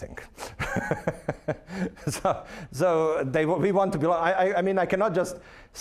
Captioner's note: laughing